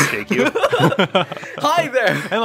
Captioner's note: laughter